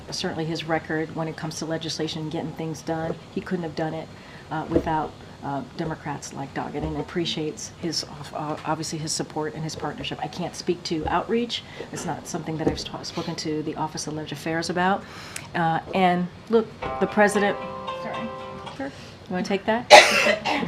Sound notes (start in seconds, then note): 16.8 A cellphone rings